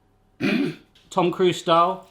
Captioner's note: laughs